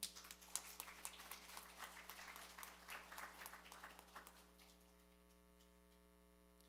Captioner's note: applause